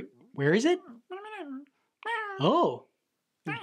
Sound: critter mumbling directions

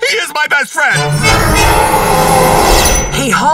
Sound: roaring

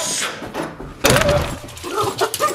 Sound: door banging; dogs yelping

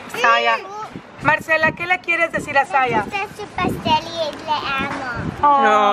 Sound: speaking in foreign language

